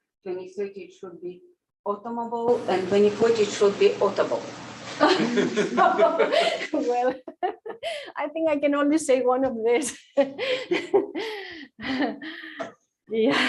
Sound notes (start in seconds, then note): 5.0 laughter